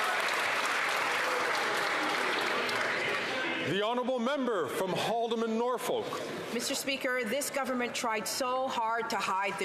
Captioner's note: some Applause